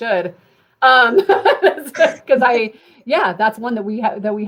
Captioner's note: laughter